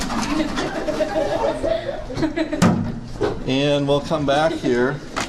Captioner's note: background laughter